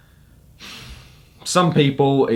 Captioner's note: sighs